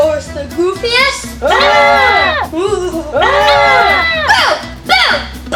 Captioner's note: collective screaming and booing